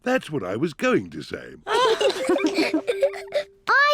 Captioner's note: all giggle